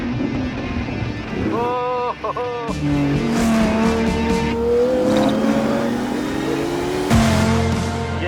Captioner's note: engines roaring